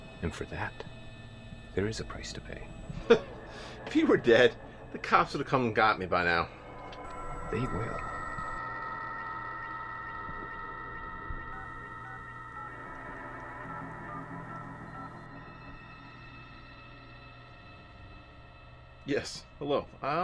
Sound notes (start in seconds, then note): 2.9 chuckles; 8.4 suspenseful music; 11.7 phone buttons beeping